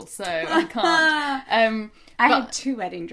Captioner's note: laughter